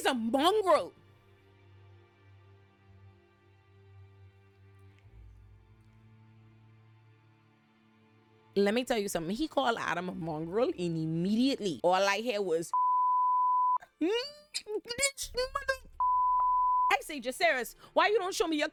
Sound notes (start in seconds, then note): 12.7 beep